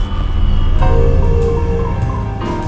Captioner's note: prison gate buzzer